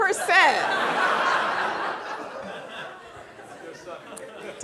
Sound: audience laughing

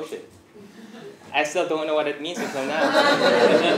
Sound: laugh

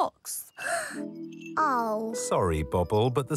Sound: gasps

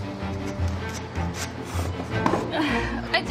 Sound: meat sawing

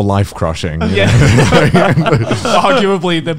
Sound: laughing loudly

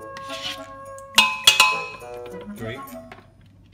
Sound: metal clanks

